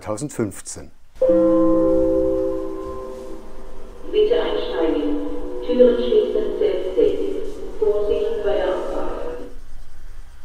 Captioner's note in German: Bahnhofsansage mit Gong